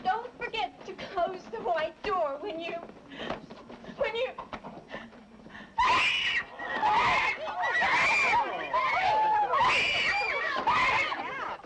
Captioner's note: screaming